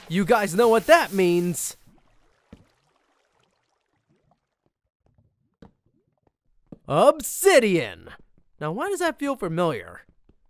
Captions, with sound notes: You guys know what that means! (splashes) Obsidian. Now, why does this feel so familiar?